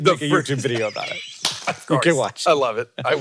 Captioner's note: laugh